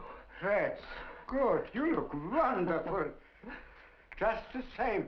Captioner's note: laughs